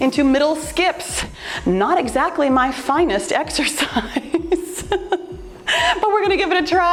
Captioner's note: laughs